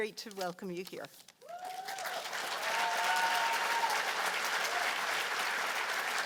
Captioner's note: cheers and applause